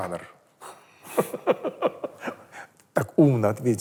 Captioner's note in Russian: смеется